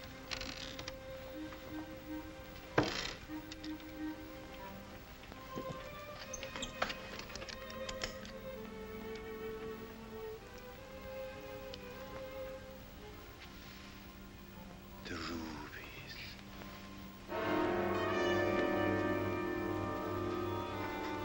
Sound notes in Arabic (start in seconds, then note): 6.5 نقرة الأصفاد; 8.8 موسيقى ناعمة مخيفة; 17.2 موسيقى درامية مشؤومة